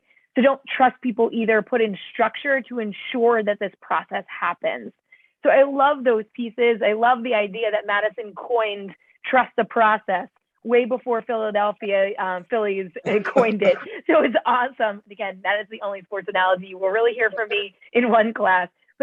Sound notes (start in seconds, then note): 13.1 laughter